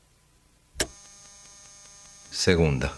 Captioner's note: static